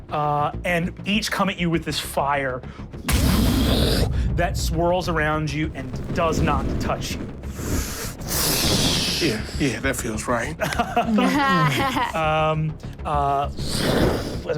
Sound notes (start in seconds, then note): 3.0 imitates fire whooshing; 7.3 fire crackling; 10.5 laugh; 13.5 fire whooshing